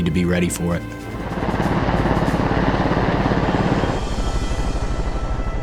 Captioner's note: propellers beating